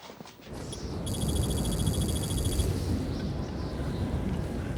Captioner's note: wind howling